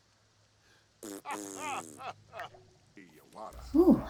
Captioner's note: blowing raspberry; laugh